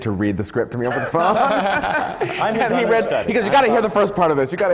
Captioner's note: laughter from the panel